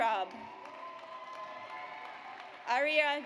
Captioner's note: audience applauds